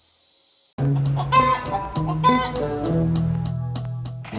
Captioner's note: chicken clucking